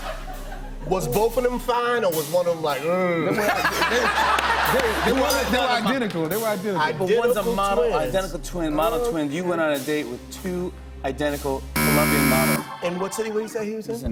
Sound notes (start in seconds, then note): 3.2 laughter; 11.7 buzzer